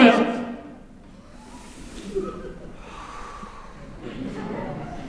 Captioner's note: they take a deep breath